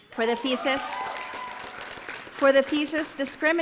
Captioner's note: applause